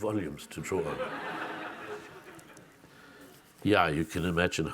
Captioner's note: audience laughing